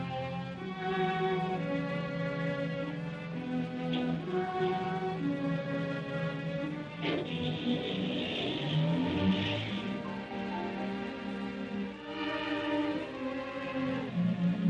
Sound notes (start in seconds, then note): 7.2 car engine revving; 7.2 door slams